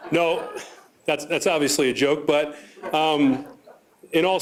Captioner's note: laughter